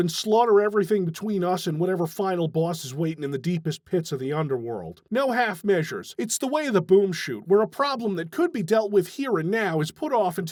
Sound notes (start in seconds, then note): none